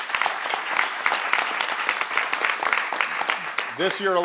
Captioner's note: applause